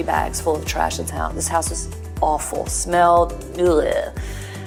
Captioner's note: disgusted sound